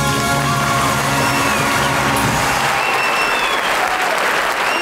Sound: audience applause

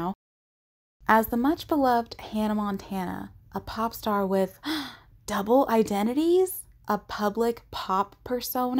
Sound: gasp

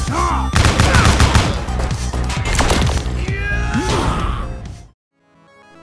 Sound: game audio

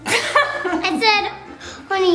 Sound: laughing

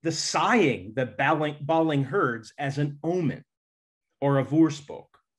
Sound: speaks in Dutch

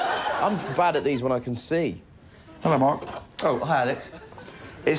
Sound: laughter

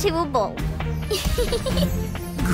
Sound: giggling

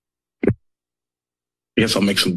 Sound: mic thuds

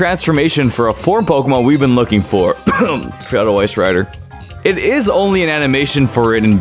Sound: cough

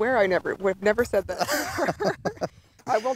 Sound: laughing

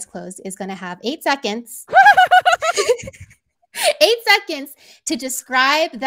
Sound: laugh

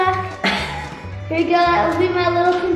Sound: laughs

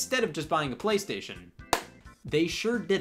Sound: claps

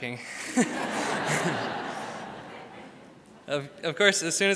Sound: crowd laughs; laughs

